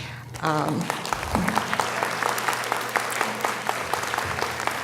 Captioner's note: audience applauding